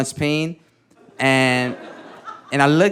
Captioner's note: audience laughing